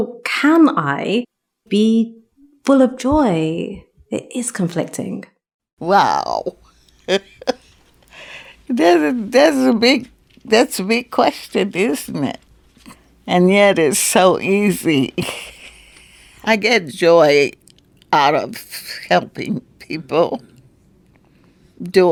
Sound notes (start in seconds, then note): 6.8 chuckles; 15.0 laughs